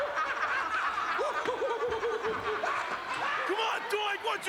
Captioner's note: laugh